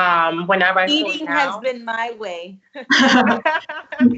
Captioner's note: all laughs